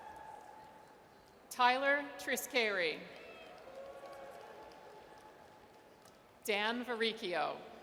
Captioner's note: audience cheers; audience cheers